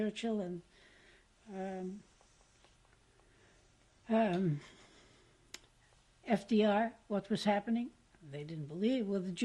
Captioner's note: pauses for 6 seconds